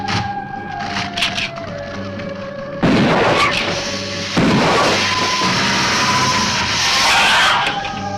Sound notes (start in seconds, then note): 2.8 gun firing; 3.6 lizard hissing